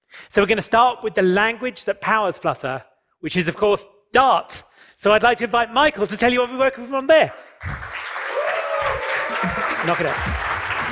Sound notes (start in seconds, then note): 7.6 cheering and applause